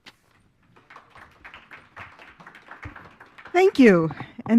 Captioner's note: applause